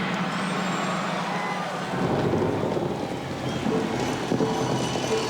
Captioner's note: crowd cheers